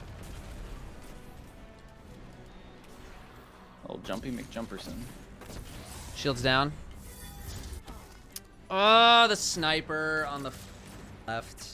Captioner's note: in game chatter for the live example